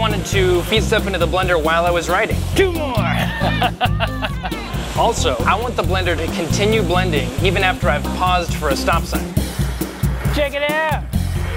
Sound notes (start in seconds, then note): 3.0 laughs